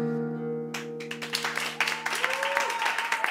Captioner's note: applause